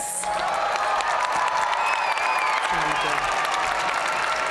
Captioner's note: audience cheering and applauding